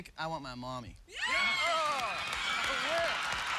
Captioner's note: cheering